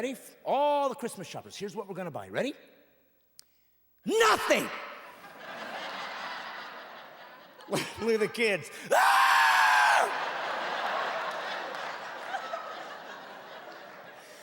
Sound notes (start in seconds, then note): 4.1 laughing; 8.9 screams; 10.3 laughing